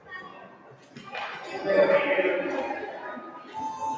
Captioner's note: applause